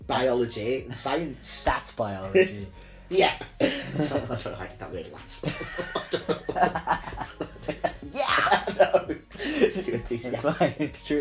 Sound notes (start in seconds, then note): 8.6 both laugh